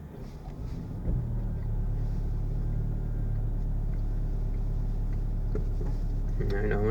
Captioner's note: truck engine noises